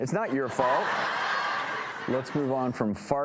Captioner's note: audience laughs